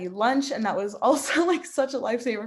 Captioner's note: laughing